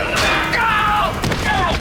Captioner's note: screaming